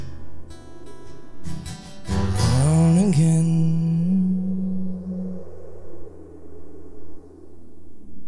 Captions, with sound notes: Alone again. (wind blowing effects)